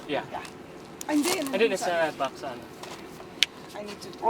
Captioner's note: speaking in foreign language